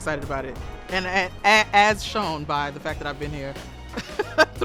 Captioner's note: laughs